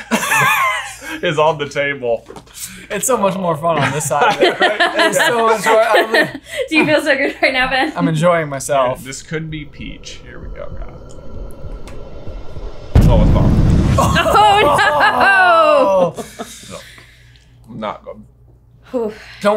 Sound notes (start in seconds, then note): 0.0 laughing; 3.8 laughing; 10.7 suspenseful music; 13.0 epic boom